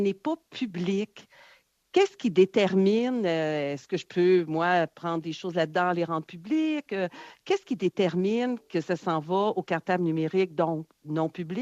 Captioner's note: speaking French